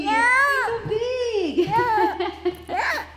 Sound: vocalizes

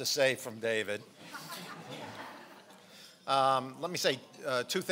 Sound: laughing

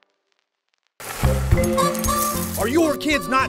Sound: cereal pours into bowl SFX

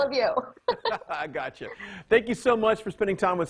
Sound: laughing

